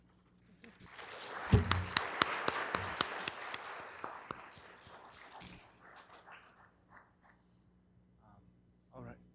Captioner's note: applause